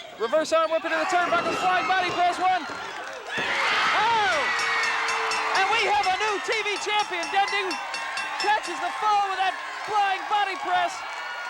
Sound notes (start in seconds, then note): 4.4 bell dinging